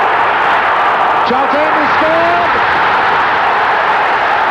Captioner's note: crowd roaring